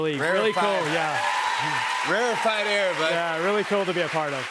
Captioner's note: cheers and applause